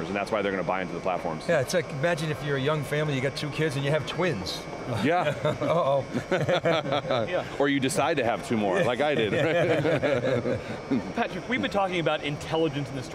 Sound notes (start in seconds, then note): 4.9 laughs; 5.0 laughter; 8.9 laughter